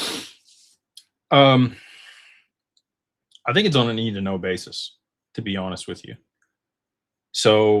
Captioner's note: snorts